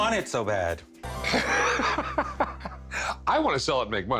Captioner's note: chuckles